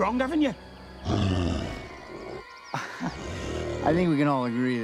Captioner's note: Loki growls